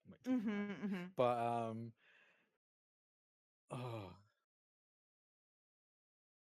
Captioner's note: sighs